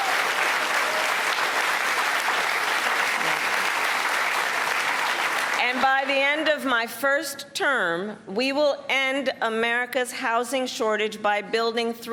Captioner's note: cheers and applause